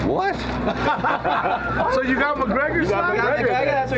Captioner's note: laughter